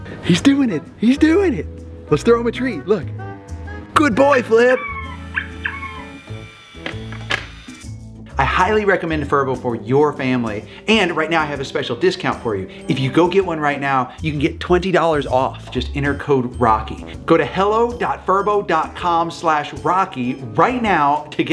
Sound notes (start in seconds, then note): 4.6 robotic squeaking; 5.2 mechanical whirring